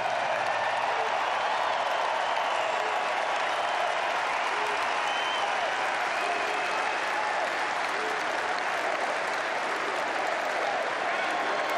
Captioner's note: applause